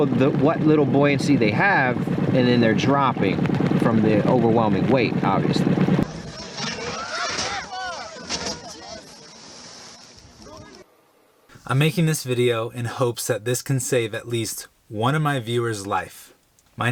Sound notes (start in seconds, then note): 6.5 people yelling; 7.3 metal crashing; 8.9 water splashing